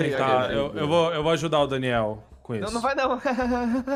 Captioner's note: fake laugh